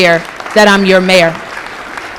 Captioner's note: applause